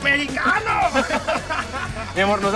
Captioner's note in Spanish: Risas